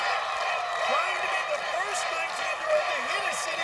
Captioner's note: cheers and applause